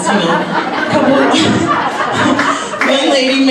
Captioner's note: audience laughs